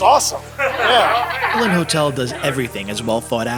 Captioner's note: chuckling